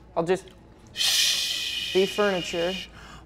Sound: shushes

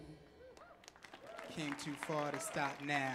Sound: audience clapping and cheering

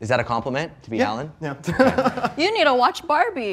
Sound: chuckling

